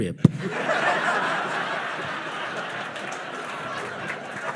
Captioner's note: audience laughing